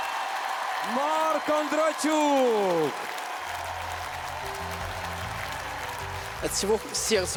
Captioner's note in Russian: аплодисменты; ликование